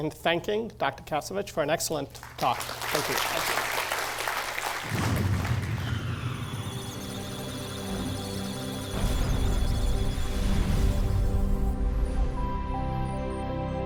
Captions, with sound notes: in thanking Dr. Kasevich for an excellent talk. Thank you. - Thank you. [applause] [musical tones] [electronic sounds of data]